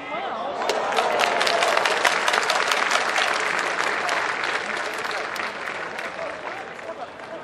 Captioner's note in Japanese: 拍手